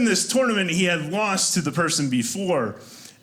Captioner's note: none